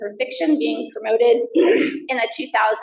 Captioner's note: coughs